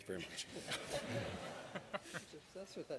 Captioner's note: laughter